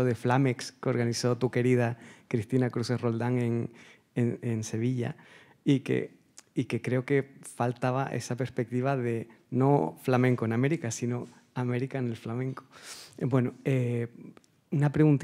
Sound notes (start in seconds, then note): 6.0 speaking Spanish